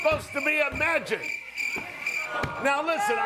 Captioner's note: crickets chirping